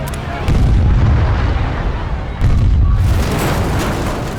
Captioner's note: explosion